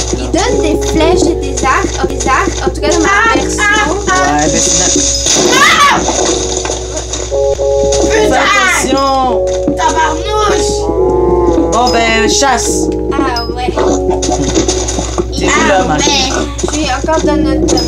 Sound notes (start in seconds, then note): 5.5 screams in fear